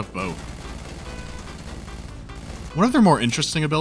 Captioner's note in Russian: беглый огонь